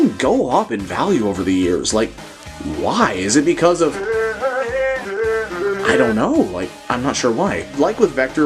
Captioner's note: huehuehuehue